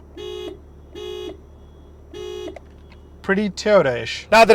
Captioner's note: horn sounds